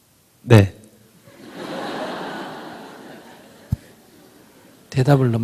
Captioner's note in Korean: 청중 웃음